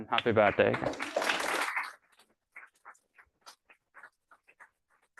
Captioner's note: applause